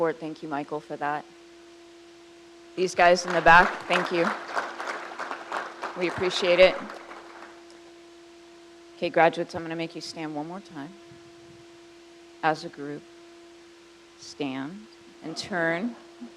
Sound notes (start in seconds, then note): 5.1 crowd applauds